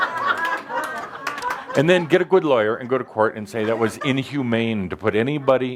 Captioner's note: laughter